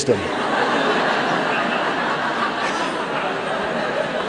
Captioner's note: laughter